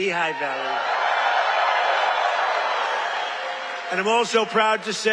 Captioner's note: cheers